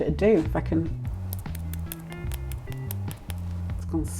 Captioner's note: crisp tapping